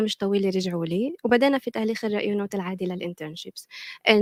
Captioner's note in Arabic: لغة أجنبية